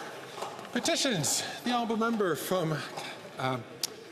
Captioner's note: some Applause